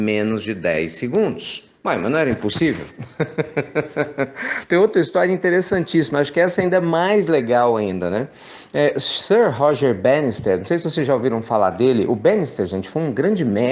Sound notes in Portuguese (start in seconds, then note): 2.8 risos